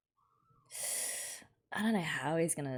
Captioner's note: sharp intake of breath